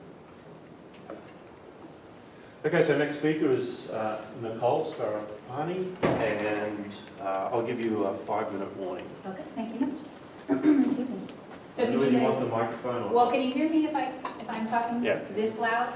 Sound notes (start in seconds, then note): 10.5 cough